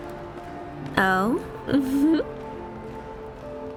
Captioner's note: giggle